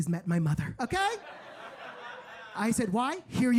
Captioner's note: audience laughing